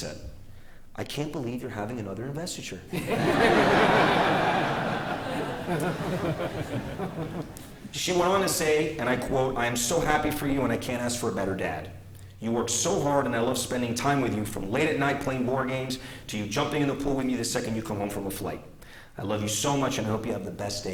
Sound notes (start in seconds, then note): 6.3 laughter